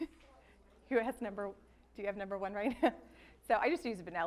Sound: laughs; laughs

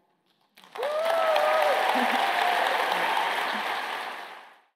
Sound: applause

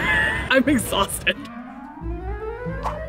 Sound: laughs; energetic music

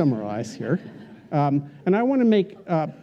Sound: laughter

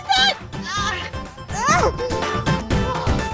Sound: groaning

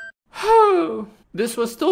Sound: sigh

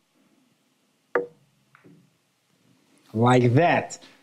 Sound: balls clinking

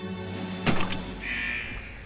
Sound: beeping

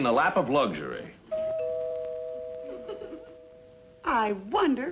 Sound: doorbell rings

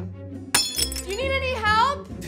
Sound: bowl breaking

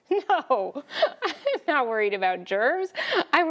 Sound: laughs

